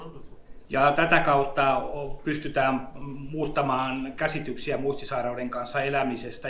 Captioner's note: speaks in Finnish language